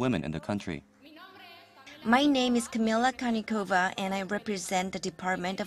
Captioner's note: Spanish